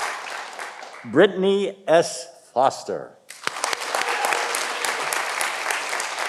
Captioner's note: audience applauding